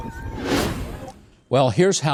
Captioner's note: wind whooshing